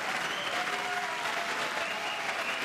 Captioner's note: cheers